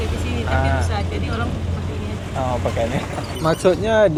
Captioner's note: laugh